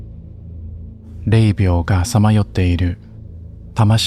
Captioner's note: speaking Japanese